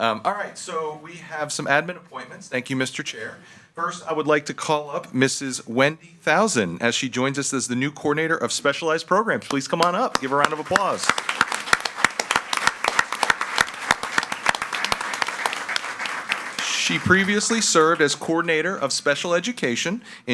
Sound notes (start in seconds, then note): 11.6 all applauding